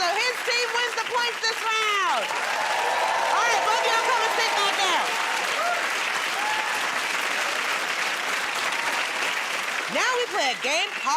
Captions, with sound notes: so his team wins the points this round. [ Cheering and applause ] Alright, both of y'all come and sit back down. [ Applause ]